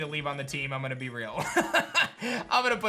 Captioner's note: laughs